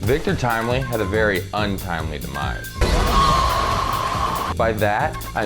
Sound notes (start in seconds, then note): 2.8 scream